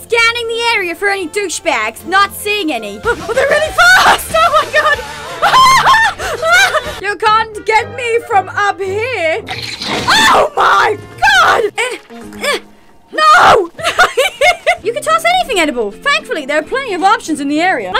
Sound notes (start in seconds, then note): 11.7 grunting; 13.8 weird Laughter